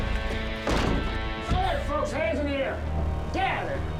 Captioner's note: kicks open door